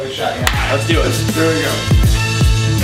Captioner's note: claps; upbeat instrumental music